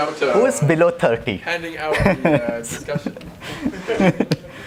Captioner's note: laugh